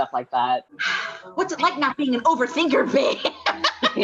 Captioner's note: laughs